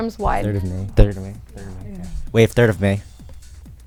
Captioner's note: wispering